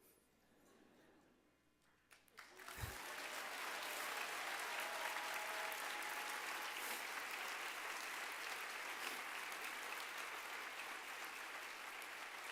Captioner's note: applause